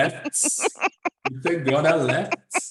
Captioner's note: laughs